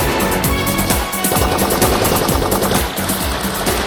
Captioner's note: gunfire continues